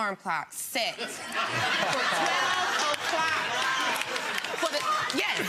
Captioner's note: laughing